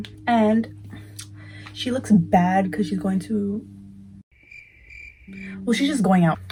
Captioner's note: crickets chirping